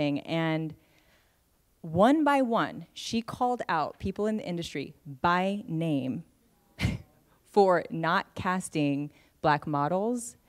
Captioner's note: laughs